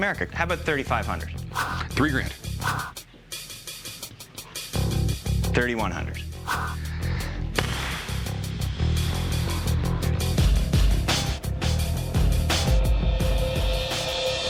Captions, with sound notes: How about 3500? Three grand. 3100. [exhales deeply] [tense music builds slowly]